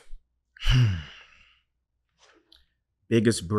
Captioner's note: sighs